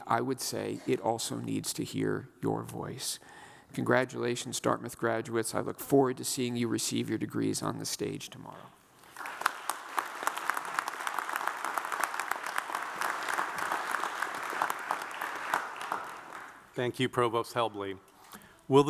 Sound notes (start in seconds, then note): 9.0 audience applauds